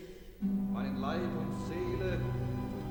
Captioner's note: speaks in german